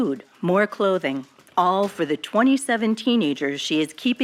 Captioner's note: archival news audio